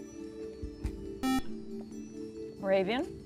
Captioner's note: beep